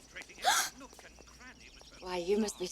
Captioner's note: gasps